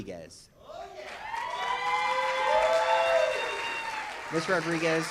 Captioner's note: audience cheers